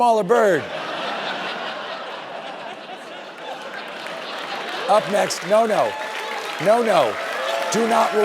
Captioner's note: laughter and applause